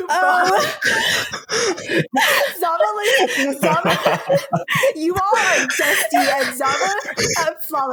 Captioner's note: laughter